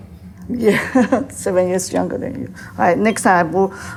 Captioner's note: laughs